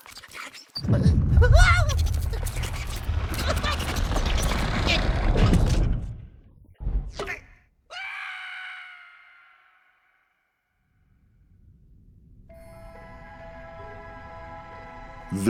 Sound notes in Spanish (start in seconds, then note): 1.4 grita de miedo; 7.7 grita